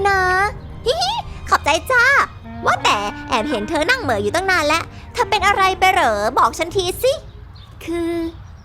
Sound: giggles

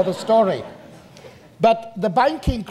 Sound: audience laughter

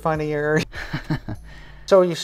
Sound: chuckles

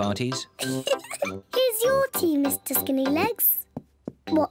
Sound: giggles

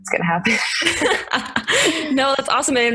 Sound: both laugh

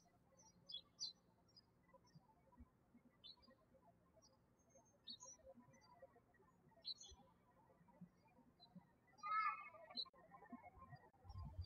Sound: birds chirping

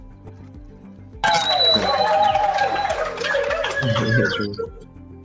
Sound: cheering

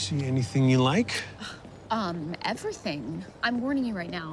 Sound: sighs

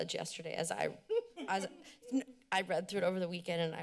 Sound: laughter

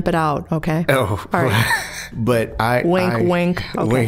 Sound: laughing

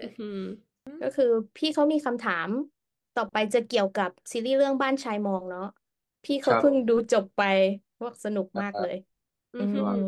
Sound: translating into Thai

